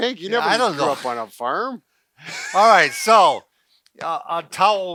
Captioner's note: laughing